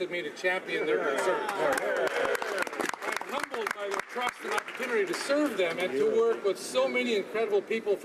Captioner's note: some Applause